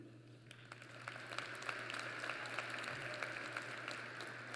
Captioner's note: applause